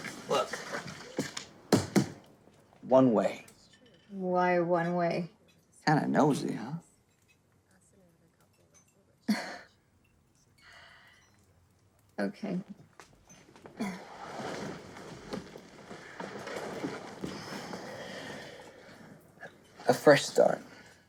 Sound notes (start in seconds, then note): 1.7 tapping; 9.0 scoffs